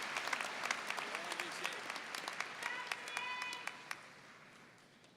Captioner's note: muffled yelling